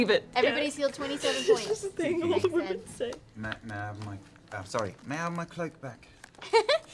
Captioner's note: higher voice